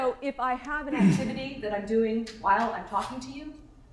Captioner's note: paper being torn